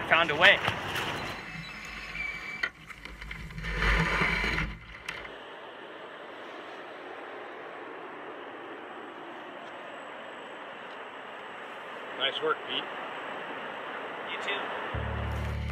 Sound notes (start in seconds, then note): 1.2 canoe screeching; 5.9 water rushing